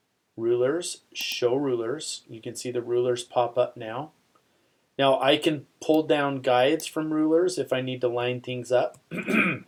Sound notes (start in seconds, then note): 9.1 clears throat